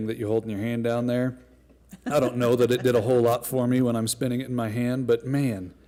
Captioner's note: laughter